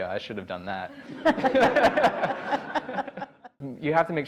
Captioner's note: laughs